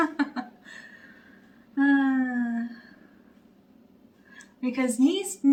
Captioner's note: bemused sigh